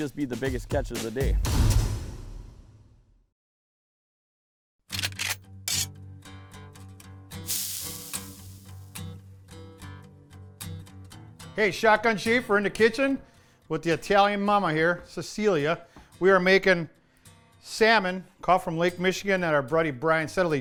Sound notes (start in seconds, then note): 4.3 sizzle; 4.9 gun cocks